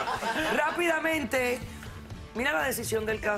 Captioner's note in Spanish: risas